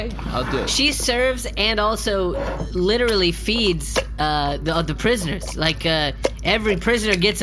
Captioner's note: stirring something wet